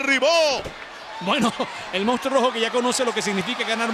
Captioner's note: laugh